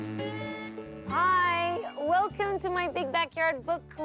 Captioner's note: bee buzzing; spring bouncing